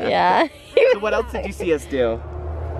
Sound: laughing

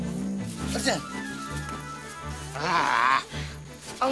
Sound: Junkie groans

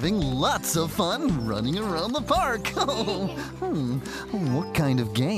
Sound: chuckles

